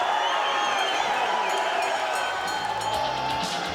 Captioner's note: crowd cheering; bell ringing